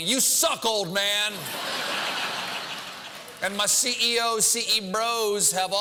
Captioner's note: laugh